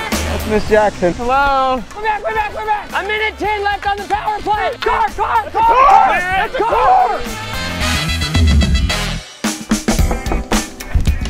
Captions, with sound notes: That's Miss Jackson. Hello. We're back! We're back! We're back! A minute 10 left on the power play! [HORN HONKS] Car! Car! Car! That's a car! That's a car! [KNOCKING]